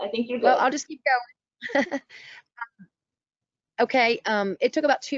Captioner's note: laughter